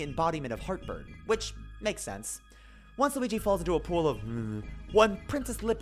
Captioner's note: mumbles